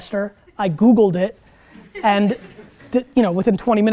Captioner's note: students laugh